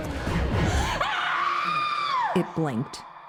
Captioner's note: Anne screams